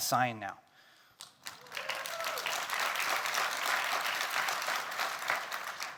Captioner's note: attendees cheering and clapping